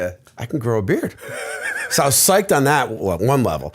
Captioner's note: laughter